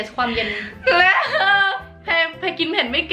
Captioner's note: crying